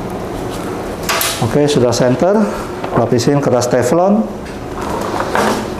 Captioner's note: ruler sound; teflon paper sound; press machine sound